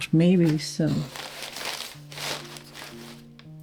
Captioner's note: paper crinkles